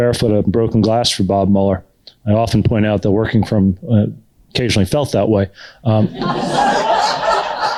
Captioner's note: laughter